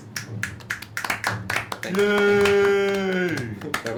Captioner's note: applause